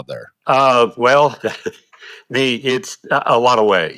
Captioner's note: chuckles